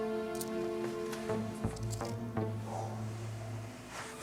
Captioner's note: gems clack